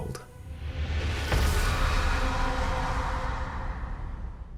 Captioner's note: eerie whistle